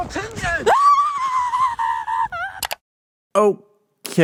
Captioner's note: screaming. click